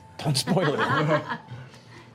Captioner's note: laughing